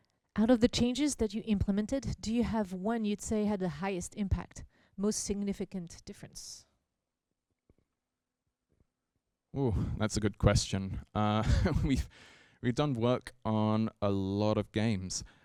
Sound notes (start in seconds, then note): 11.3 chuckles